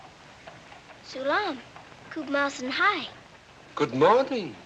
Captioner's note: speaking Hindustani